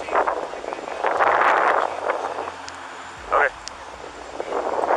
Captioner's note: wind rustling